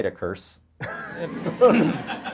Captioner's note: audience laughter